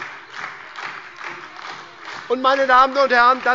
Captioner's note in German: Beifall bei der SPD